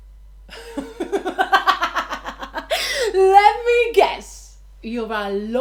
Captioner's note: laughs